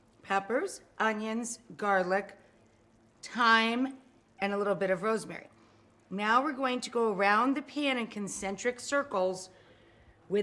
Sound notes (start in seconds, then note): none